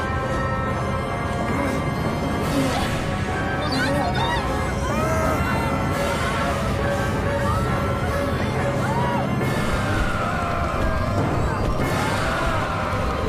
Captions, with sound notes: - HOLD ON! HOLD ON! [all screaming]